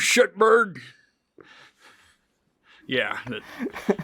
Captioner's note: chuckles; laughs; interviewer laughs